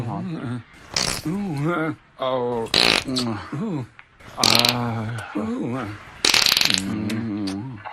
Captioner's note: uncontrolled farting; sexy, farty noises